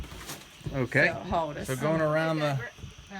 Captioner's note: chatter